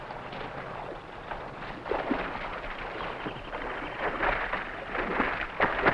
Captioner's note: water sloshing; animals chattering